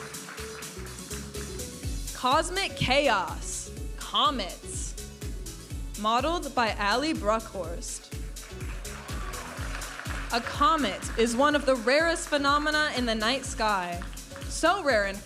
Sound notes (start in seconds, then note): 0.0 audience applauding; 0.3 upbeat music; 8.4 audience applauding and cheering